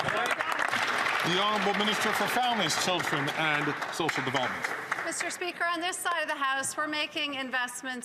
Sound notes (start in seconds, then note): 4.6 some Applause